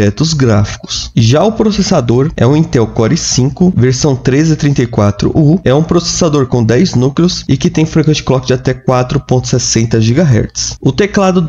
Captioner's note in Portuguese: clock